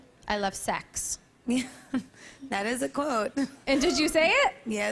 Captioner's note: laughs nervously